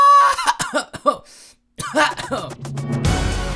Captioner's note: coughs awkwardly